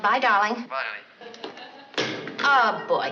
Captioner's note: on phone